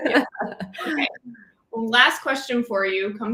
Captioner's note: laughter